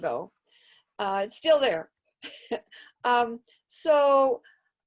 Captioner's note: chuckles